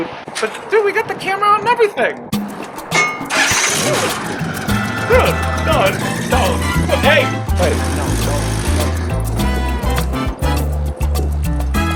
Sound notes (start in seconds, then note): 3.2 engine running; 7.8 upbeat music